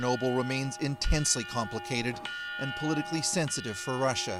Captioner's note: bell ringing